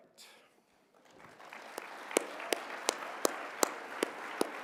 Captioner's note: applause